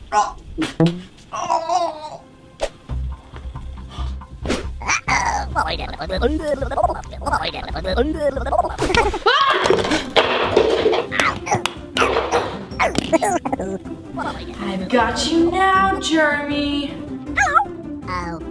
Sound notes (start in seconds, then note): 1.3 gagging; 7.6 gibbering; 9.4 shouting; 12.6 Germy giggling